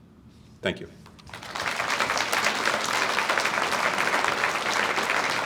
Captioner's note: audience applauds